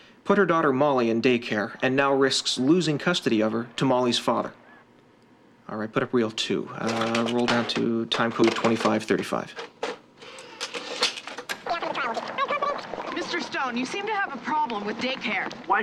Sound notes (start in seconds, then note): 11.4 fast-forwarding